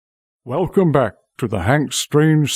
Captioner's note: voiceover